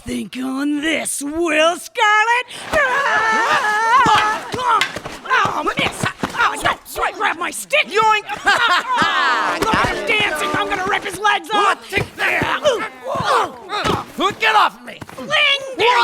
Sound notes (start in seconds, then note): 7.1 laughing